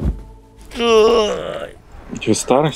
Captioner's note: grunting